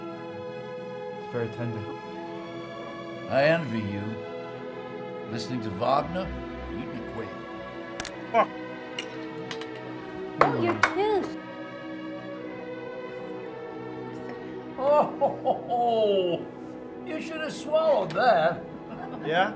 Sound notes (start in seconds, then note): 8.0 cracking; 14.8 chuckles